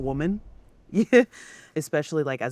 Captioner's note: chuckling